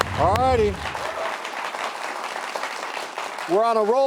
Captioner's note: audience applauding